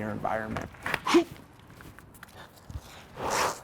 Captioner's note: grunting